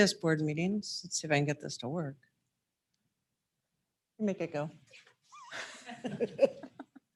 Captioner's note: laughs